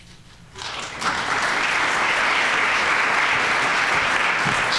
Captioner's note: audience applauding